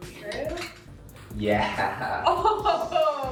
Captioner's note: chuckling